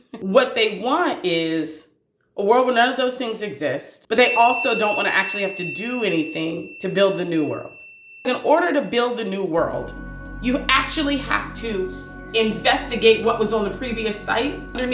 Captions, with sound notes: what they want is a world where none of those things exist. But they also don't wanna actually have to do anything -- [ding sound] to build the new world. In order to build the new world, you actually have to -- [ethereal music] investigate what was on the previous site.